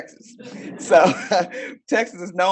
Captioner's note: audience laugh